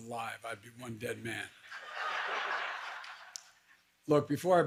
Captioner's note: laughter